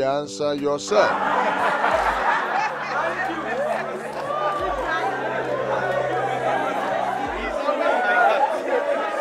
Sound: laughter

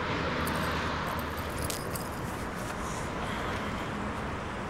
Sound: chain rattling

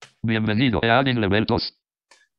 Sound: speaking spanish

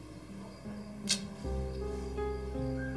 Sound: clicks tongue

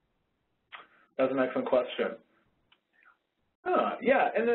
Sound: voiceover

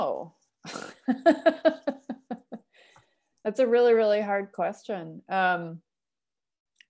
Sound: laughter

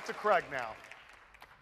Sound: applause

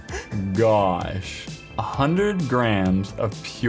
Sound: laughs

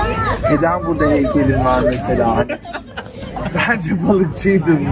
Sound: laughs

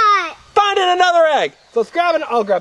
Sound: voiceover

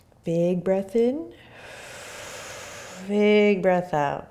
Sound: exhaling

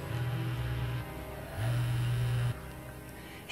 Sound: ominous music; cell phone buzzing

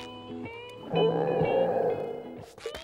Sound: stomach growling

